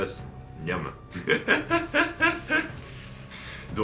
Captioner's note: laughs